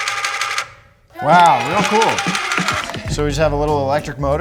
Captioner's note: children cheer